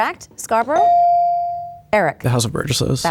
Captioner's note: bell dings